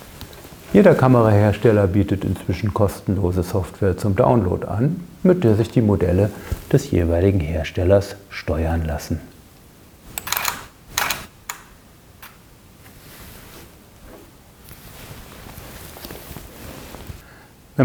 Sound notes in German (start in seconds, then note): 10.2 Kameraauslöser